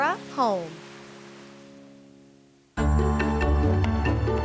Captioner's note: waves lapping onshore